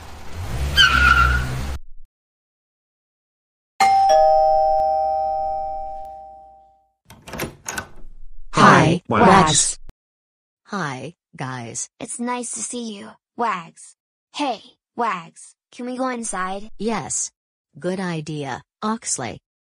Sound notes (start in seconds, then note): 3.8 doorbell rings; 7.0 door opens